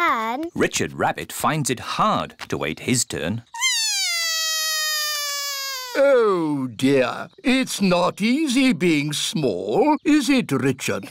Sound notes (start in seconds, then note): 3.6 cries